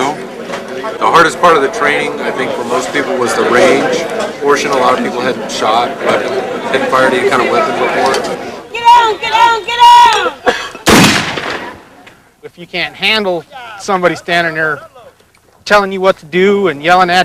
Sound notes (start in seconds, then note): 8.6 shouting; 10.8 gun shot